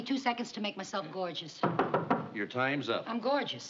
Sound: knock on door

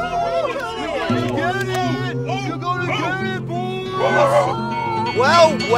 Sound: Achievement Hunter obnoxiously hooting and hollering in the distance; Achievement Hunter barking

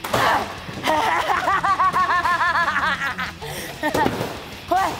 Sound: laughs

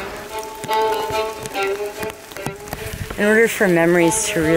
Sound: rain falling

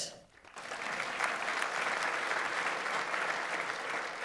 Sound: audience applauds

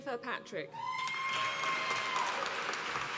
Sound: applause

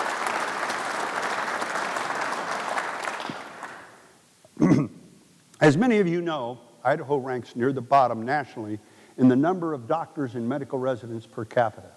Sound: applause

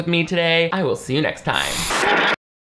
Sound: static hisses

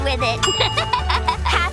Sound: laughing

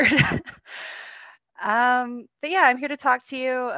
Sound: laughter

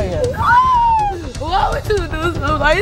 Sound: crying; screaming

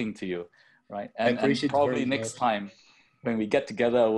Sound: chattering

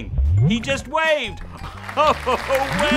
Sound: laughing

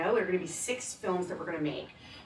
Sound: none

